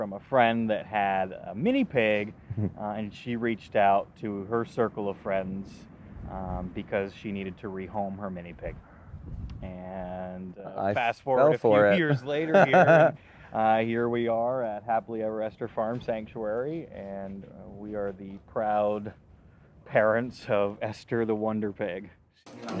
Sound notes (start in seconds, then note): 11.6 laughs